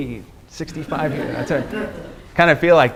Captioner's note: students laughing